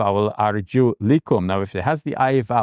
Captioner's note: speaking in Arabic